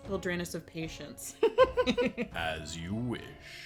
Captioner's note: giggles